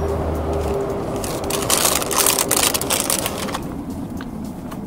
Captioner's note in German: Knistern